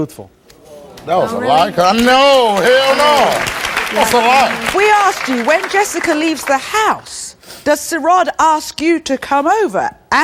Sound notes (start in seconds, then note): 3.0 audience applauds